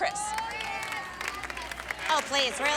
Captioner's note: audience shouts